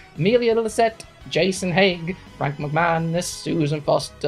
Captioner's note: speaking in German